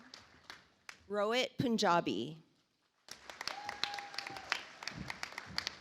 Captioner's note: audience applauds